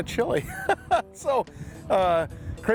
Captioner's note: laughs